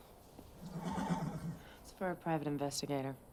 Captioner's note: horse whinnies